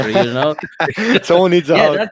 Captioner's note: chuckles